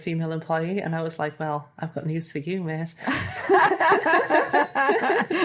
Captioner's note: they both laugh heartily